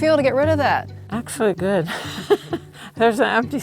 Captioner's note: participant chuckling